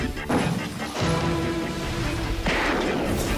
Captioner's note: gun blasts; intense music